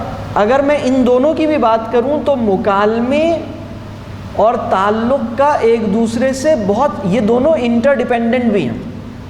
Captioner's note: conversation